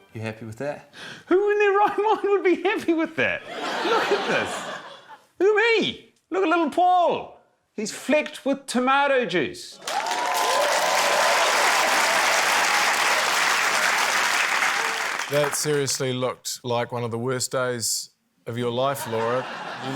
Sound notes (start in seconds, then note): 3.4 laughter; 9.8 cheering, applause